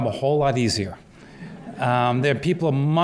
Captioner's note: laughter